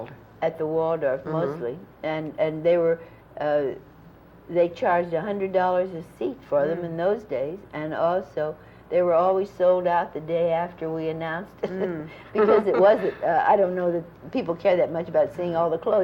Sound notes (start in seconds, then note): 12.3 laughter